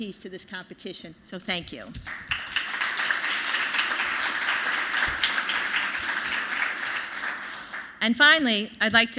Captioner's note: applause